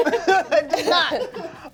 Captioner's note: cast laughs